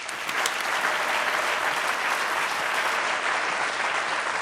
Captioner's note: audience clapping